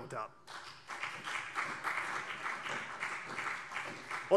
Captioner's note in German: Beifall CDU und BÜNDNIS 90/DIE GRÜNEN